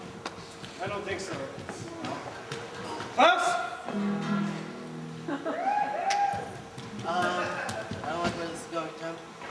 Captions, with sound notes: I don't think so, Al. Clous? (Spanish guitar chords strum) (soft cheers) Uh, I don't like where this is going Tim.